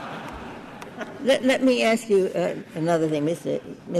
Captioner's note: laughter